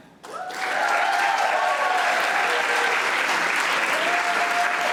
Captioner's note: audience applauding